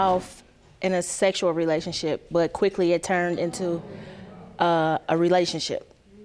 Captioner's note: audience gasping